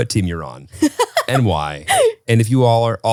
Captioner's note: laughs